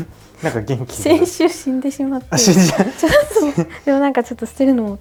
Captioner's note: laughter